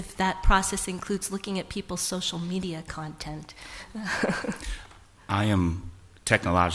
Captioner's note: laughs